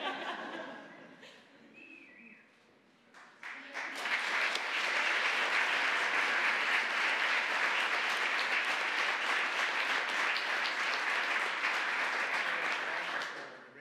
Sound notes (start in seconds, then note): 0.0 audience laughing; 3.1 applause